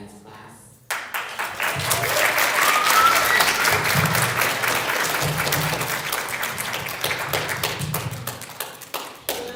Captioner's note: applause